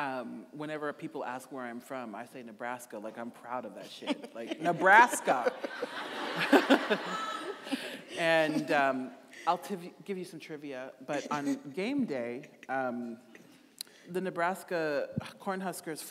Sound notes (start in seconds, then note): 3.9 laughing; 6.0 audience laughing; 6.0 chuckling